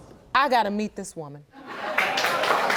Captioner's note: audience applauding